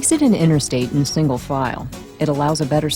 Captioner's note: soft rock music; voiceover